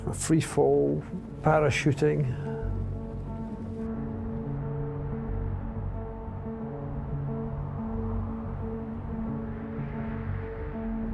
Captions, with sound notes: he's free fall parachuting. (ominous music) (wind whooshing)